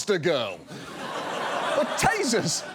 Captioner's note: audience laughs